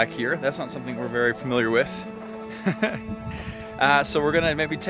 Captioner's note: laughs